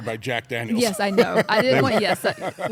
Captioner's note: laugh